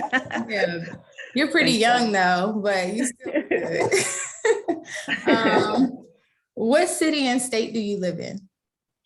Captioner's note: laughs; laughs